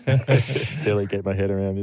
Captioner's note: laughter